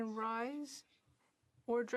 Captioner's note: speaking French